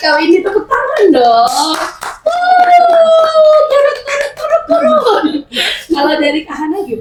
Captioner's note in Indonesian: berteriak